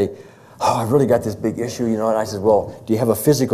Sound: sighs

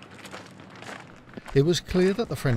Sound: boots stomping

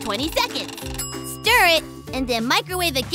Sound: dings

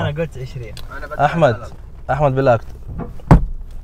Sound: Arabic

